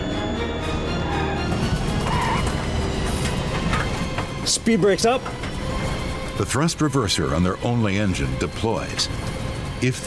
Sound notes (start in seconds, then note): 1.0 tires screeching